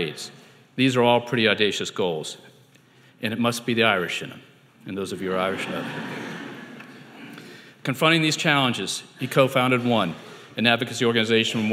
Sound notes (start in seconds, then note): 5.4 audience laughing